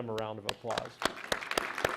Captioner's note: applause